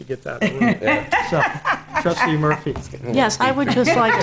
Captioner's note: laughing